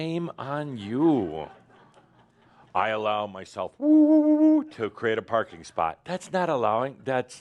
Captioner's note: some chuckles